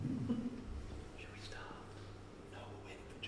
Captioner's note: whispering